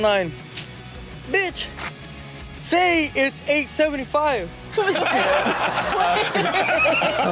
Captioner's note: audience laughs